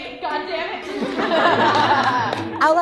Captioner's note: laughter